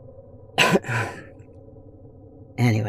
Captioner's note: clears throat